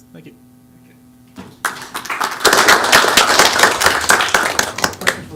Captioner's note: applause